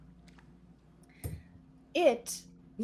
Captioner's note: dice thumping